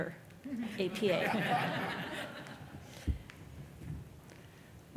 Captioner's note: laughter